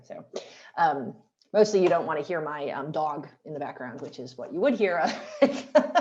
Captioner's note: laughter